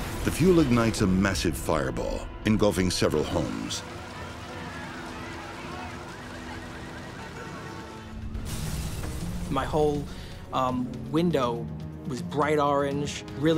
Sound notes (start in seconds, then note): 4.9 horns honking; 4.9 sirens wailing